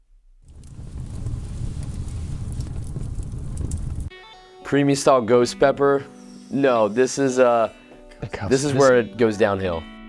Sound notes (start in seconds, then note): 0.6 fire sound effect